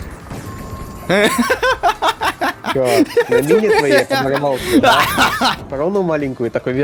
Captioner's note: my wild laugh